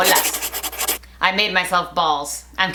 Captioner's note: pencil scratching